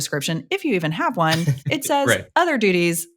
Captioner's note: chuckles